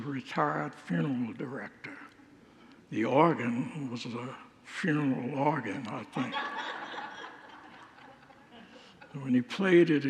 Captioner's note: congregants laugh